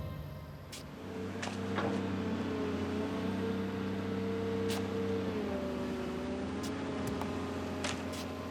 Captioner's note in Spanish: ruido de la excavadora